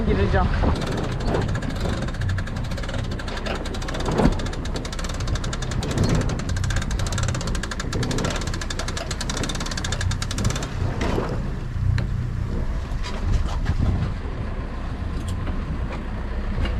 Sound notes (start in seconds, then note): 0.6 winch noises